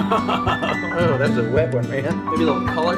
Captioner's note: laughs